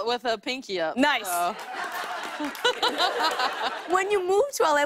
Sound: laughter

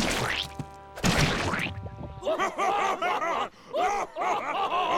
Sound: laughing

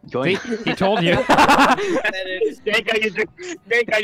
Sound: laughter

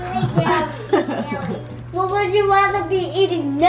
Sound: laugh

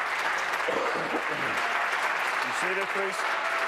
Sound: applause

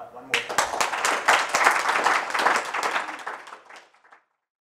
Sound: applause

